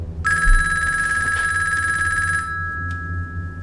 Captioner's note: phone rings